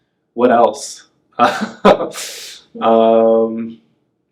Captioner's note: laughs